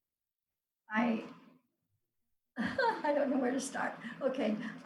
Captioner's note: laughs